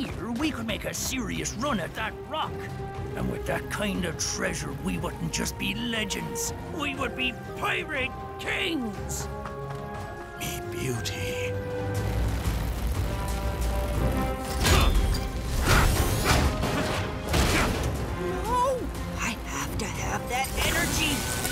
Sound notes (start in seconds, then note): 14.2 grunting, groaning